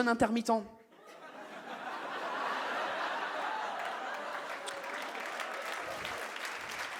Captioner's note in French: le public réagit et rit